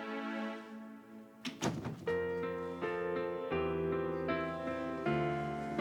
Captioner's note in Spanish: Ruido al cerrar la puerta